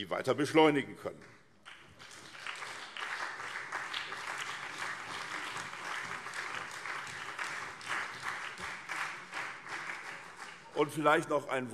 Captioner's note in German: Beifall SPD und CDU